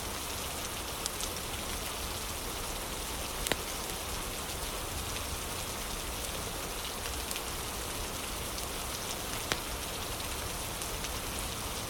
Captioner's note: fire crackling; fire crackling